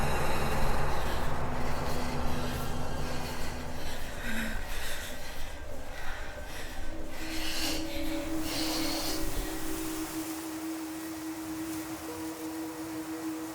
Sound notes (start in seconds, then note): 4.1 woman panting; 7.1 gentle music; 7.1 wind rustling